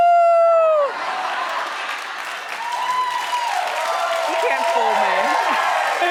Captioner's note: audience cheering